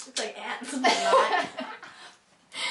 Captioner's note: laughing